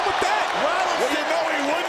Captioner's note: audience cheers